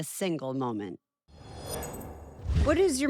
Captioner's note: logo whooshing